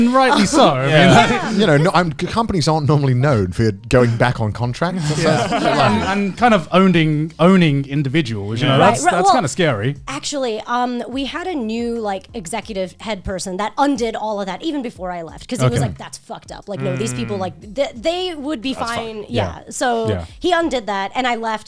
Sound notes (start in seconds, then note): 4.9 all laughing